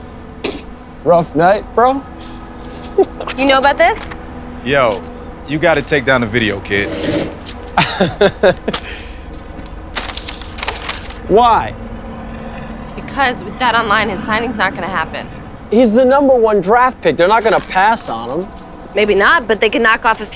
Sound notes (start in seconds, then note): 2.7 laughter; 7.7 laughing